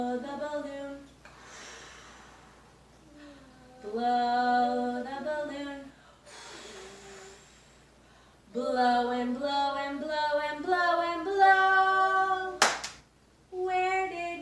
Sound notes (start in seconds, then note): 12.6 clap